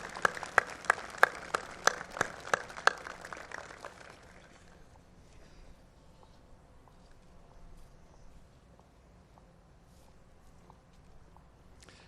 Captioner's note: applause